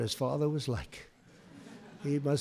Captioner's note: laughter